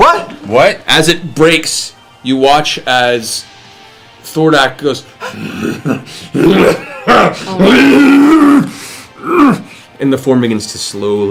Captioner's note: <m> laugh